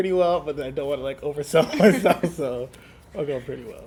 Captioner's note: laughs